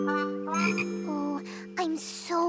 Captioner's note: croaks